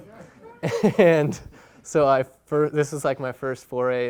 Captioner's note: chuckling